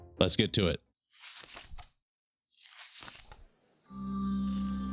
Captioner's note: pages turning; shimmering